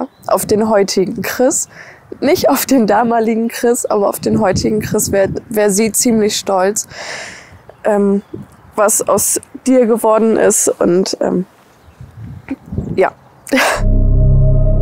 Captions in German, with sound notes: Auf den heutigen Chris. Nicht auf den damaligen Chris, aber auf den heutigen Chris wär sie ziemlich stolz. Ähm ... was aus dir geworden ist und ... (Schluchzen) ja. (Schluchzen)